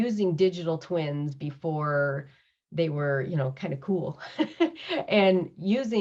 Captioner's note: laughs